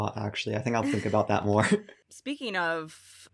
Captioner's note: chuckles